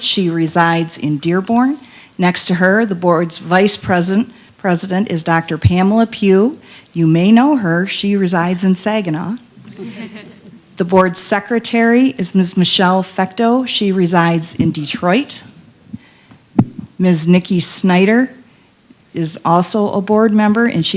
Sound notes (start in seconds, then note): 9.6 laughter